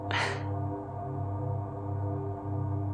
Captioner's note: nervous laugh